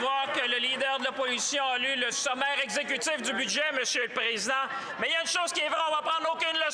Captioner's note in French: voix de l'interprète